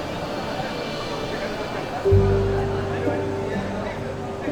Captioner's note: indistinct chattering